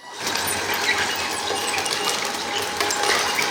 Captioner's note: motors running